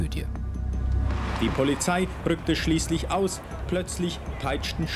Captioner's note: archival sound